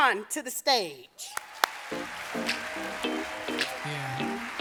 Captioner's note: audience applauding; hip-hop music